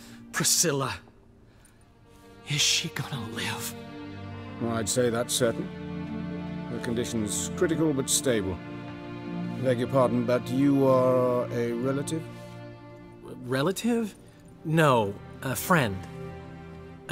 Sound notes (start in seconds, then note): none